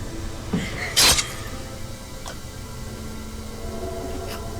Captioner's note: coughing; blade slicing